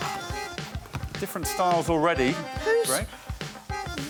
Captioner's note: blows whistle